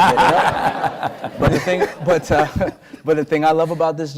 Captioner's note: laughter